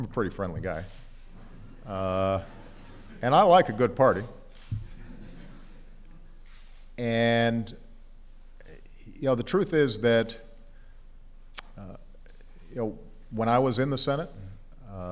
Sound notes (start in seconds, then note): 4.8 laughter